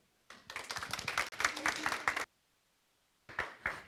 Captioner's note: applause